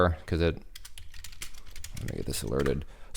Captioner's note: keyboard clicking